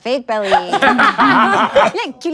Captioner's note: everyone laughs